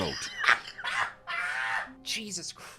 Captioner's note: laughs; laughs at having been insulted